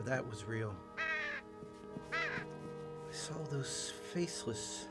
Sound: crow caws

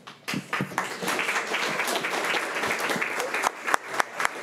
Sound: crowd clapping

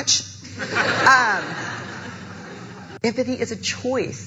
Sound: audience laughing

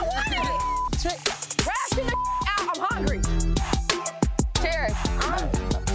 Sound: beep

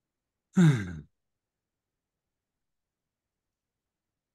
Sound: sighs

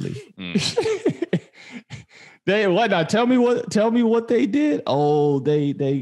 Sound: laughs

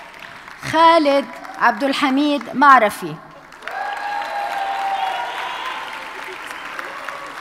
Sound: audience cheers and applauds

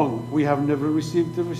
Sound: speaking foreign language

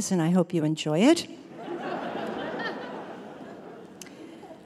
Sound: audience Laughter

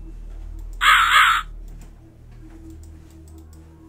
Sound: crow Caws

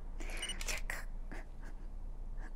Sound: camera Shutter

